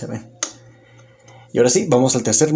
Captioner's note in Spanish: Silencio